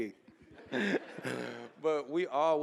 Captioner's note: chuckling